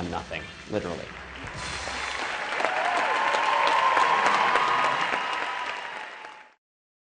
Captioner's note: applause